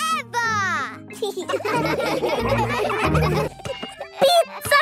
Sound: laughing

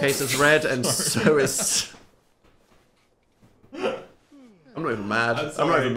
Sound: laughs

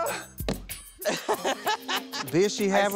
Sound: laughing

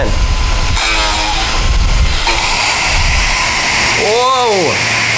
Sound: machine grinds

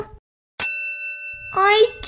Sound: ding!

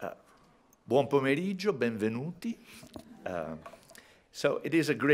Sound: speaking italian

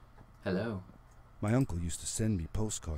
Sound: none

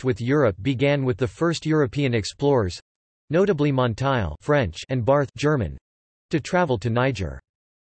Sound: German

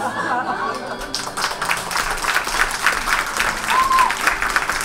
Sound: audience laughs and applauds

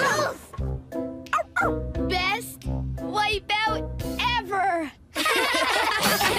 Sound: barks Twice; pups Laughing

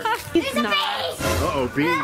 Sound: laughs

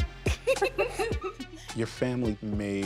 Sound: laughter

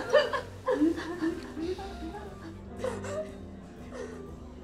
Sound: women sobbing at bar

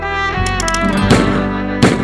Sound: A Gunshot

